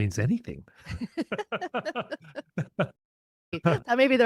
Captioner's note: both laughing